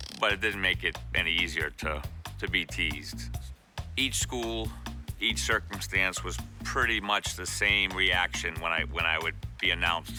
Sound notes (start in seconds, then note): none